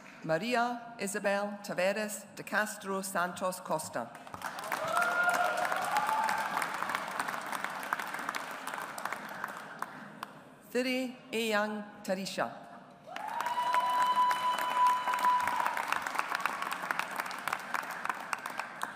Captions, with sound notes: Maria Isabel Tavares De Castro Santos Costa. (AUDIENCE APPLAUDS) Thiri Aung Tarisha. (AUDIENCE APPLAUDS)